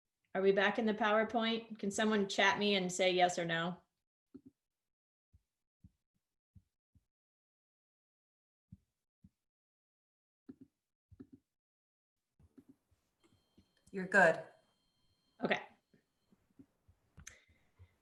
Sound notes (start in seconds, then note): 3.6 silence